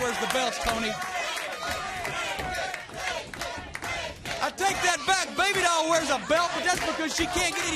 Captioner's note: crowd chatter